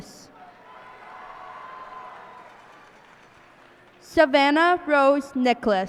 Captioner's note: cheers and applause